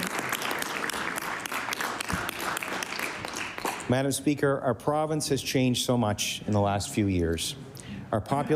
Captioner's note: applause